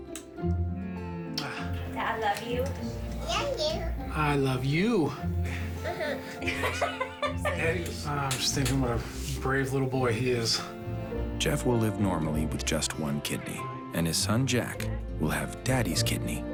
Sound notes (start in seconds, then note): 0.9 smooching; 5.2 laughing